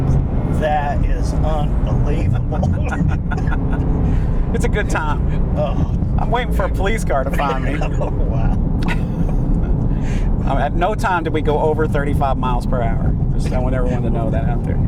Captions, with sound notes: That is unbelievable. [laughing] It's a good time. I'm waiting for a police car to find me. Oh, wow. At no time did we go over 35 miles per hour. I want everyone to know that out there.